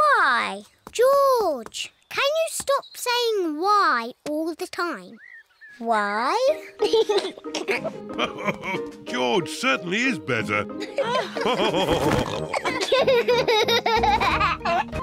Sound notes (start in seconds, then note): 6.4 laughs; 6.5 giggles; 10.7 all laughing